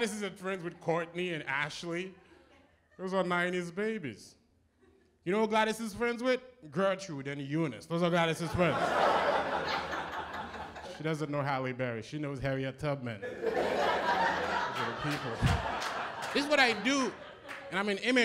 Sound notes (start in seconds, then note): 8.4 laughter; 13.2 laughter